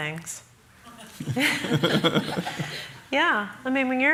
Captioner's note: laughter